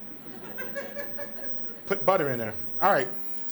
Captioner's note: audience laughs